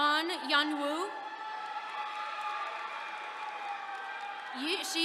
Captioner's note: attendees cheering